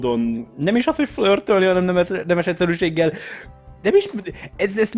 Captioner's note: inhale